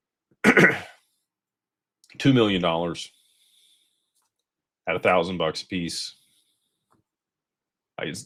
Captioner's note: clears throat